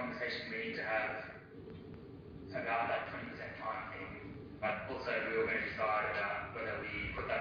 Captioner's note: audio distorts